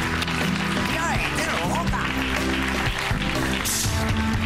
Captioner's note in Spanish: aplausos